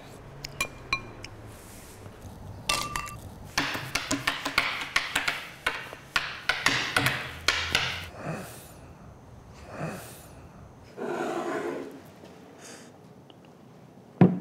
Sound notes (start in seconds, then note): 0.2 slurping; 3.5 tapping; 11.0 glass scraping